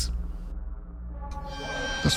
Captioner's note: Kitchen Nightmares Sound Effect